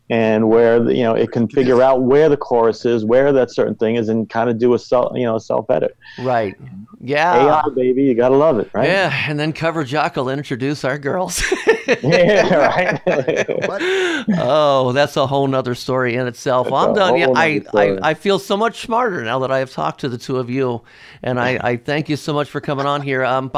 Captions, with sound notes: And where, y'know, it can figure out where the chorus is, where that certain thing is, and kinda do a self-edit. - Right, yeah. - Hang on, baby, you're gonna love it, right? - Yeah, and then CoverJock will then introduce our girls. (laughs) - (laughs) Yeah, right? - Oh, that's a whole 'nother story in itself. Well I'm gonna be, I feel so much smarter, now that I have talked to the two of you, and I thank you so much for comin' on here.